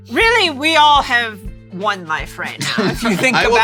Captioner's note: laughs